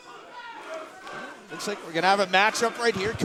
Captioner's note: fans chanting